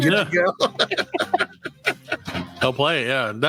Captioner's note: laughs